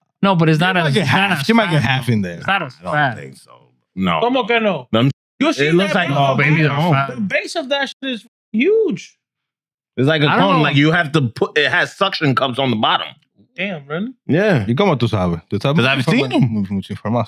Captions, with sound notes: No, but it's not a-- You might get half in there. It's not a size. I don't think so, but no. No, no, no. Them You see that, brother? The base of that is huge. It's like a tone, like you have to put, it has suction cups on the bottom. Damn, really? Yeah. (Speaking In Foreign Language)